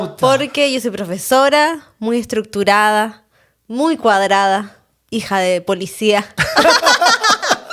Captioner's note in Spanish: risas